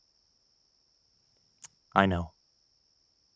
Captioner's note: tsk sound